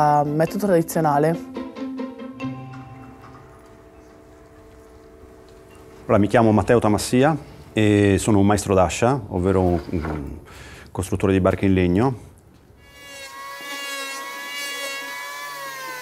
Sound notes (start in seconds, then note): 0.0 upbeat music; 12.8 saw cutting